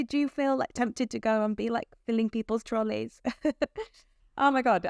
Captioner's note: chuckles